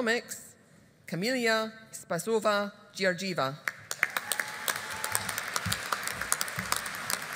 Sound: audience applauding

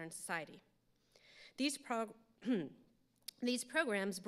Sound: clears throat

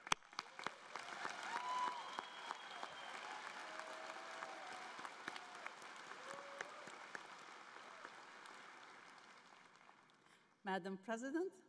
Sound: applause

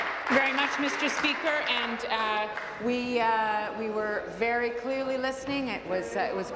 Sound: applause

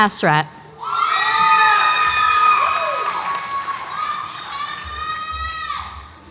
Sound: audience applauds and cheers

